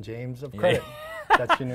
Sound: laughter

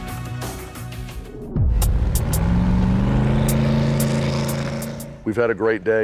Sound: car engine roaring

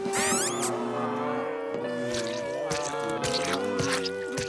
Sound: squeaking; groaning

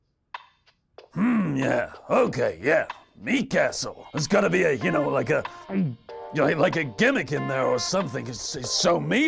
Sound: heavy gulp

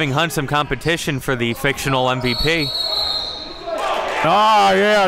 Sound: whistle blows; applauding and cheering

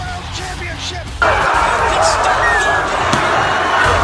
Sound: cheering and crying

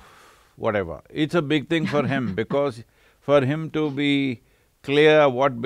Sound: laughs

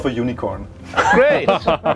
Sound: laughter

